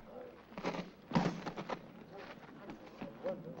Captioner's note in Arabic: الحزام يضرب الأرض